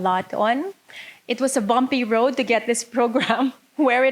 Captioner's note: laughing